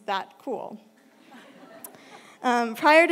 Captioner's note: laughter